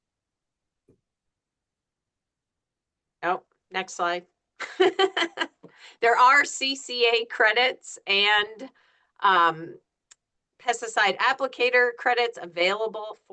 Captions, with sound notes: Oh, next slide. (laughs) There are CCA credits and pesticide applicator credits available